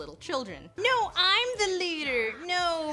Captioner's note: doing a child-like voice